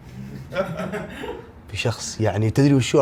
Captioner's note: all laughing